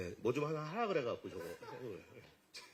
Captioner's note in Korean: 웃음